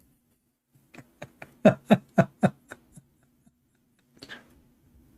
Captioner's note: Ketawa